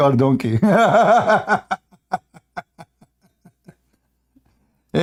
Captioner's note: Ketawa